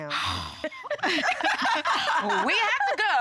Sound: group laughs

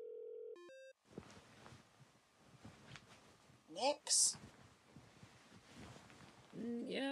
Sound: over phone

